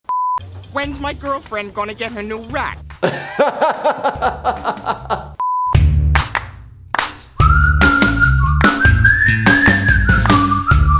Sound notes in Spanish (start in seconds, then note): 3.0 reír; 7.3 música alegre y silbidos